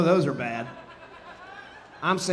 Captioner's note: audience laughing